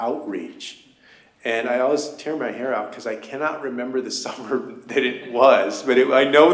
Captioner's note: laughter